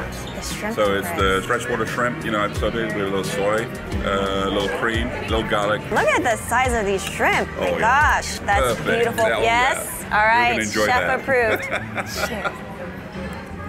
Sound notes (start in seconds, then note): 11.0 laughs